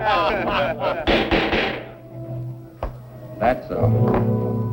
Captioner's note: laughter; pounding gavel